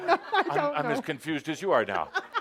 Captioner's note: laughter